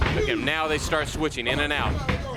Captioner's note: crowd cheering